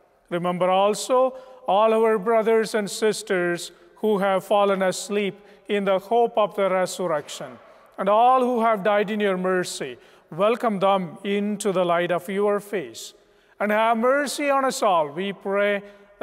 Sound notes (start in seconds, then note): none